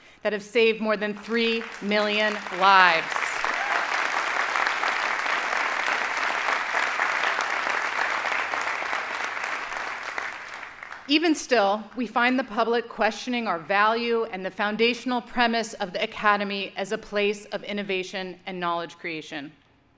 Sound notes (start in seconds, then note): 3.1 audience applauding